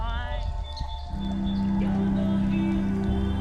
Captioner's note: birds tweeting; singer vocalizing